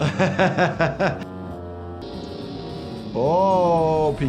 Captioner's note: laughs